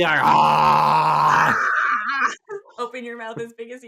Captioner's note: screams